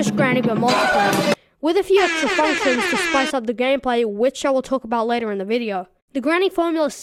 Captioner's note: air horn sound